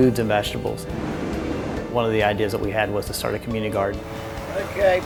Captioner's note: train rolling